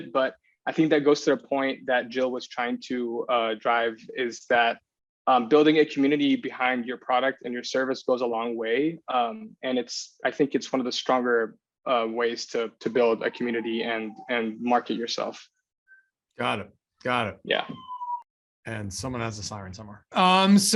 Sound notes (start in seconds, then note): 12.8 siren rings